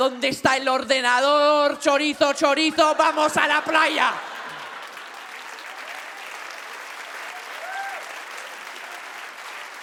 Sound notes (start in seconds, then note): 4.3 audience claps and whoops